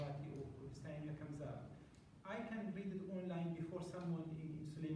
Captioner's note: non-english